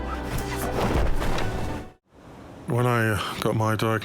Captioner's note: gentle music; parachutes open